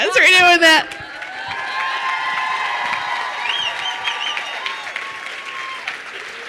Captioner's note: crowd cheering and applauding